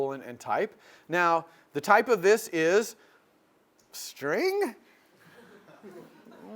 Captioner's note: laugh